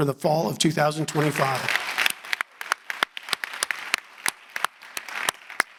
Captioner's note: audience applauding